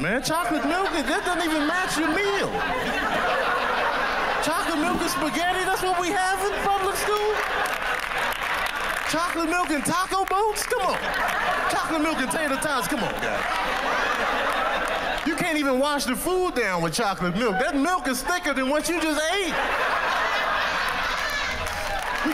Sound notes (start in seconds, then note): 7.6 laughter and applause; 18.8 laughter and applause